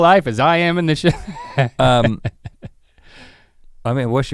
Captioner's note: chuckles